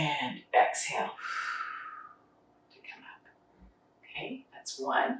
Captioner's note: exhaling